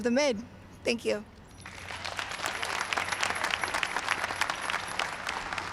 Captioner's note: applause